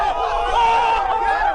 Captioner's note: screaming